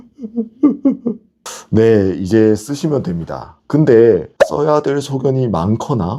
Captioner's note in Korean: 웃음